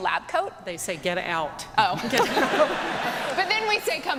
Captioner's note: laughter